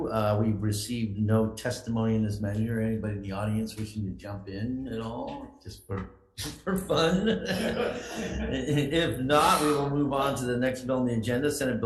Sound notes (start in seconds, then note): 6.8 everyone chuckles